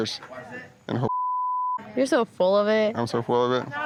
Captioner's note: beep